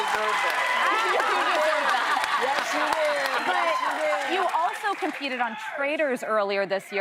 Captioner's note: cheers and applause